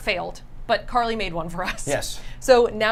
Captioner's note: laughs